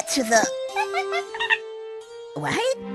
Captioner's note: monkey noises